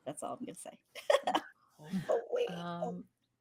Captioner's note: laughing